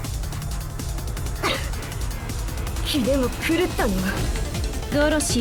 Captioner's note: cough